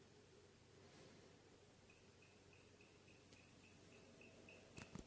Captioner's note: camera shaking